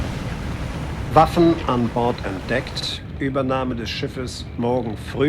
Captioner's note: speaking foreign language